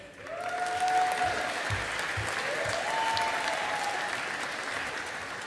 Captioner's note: audience applauding